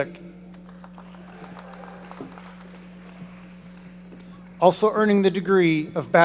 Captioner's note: audience applauding